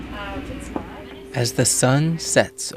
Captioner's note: people chattering